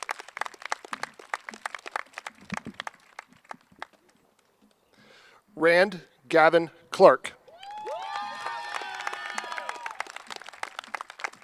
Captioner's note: cheers and applause